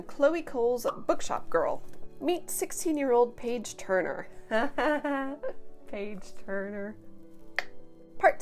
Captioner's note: chuckles